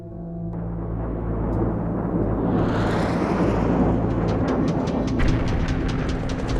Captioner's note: explosions